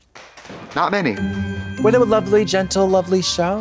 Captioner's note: festive chime